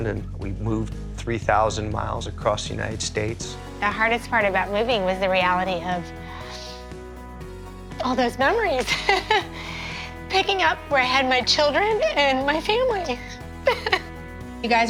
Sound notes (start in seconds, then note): 6.7 voice breaking; 8.8 chuckles; 13.6 laughs